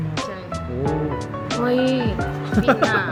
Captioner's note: laughing so hard